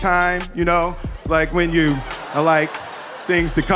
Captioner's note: audience laughing